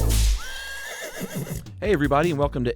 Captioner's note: horse neighing